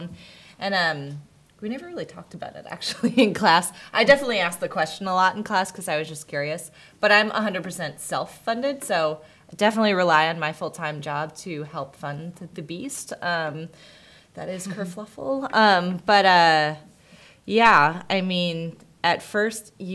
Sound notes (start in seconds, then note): none